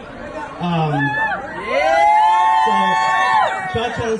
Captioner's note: crowd cheers